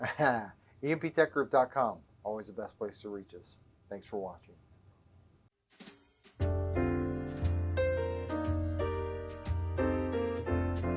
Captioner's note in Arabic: يضحك